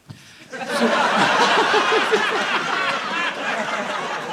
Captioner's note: audience laughing